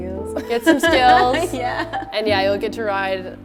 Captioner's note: laughing